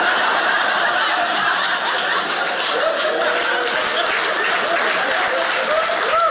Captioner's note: audience laughing; audience clapping